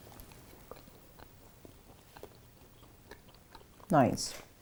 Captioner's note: chews the sweets